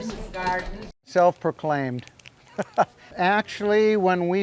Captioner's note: laughing